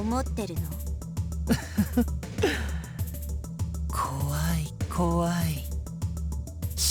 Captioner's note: chuckle